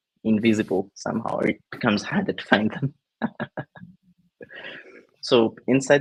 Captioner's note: chuckles